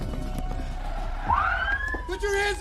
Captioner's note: tires screech, siren w waili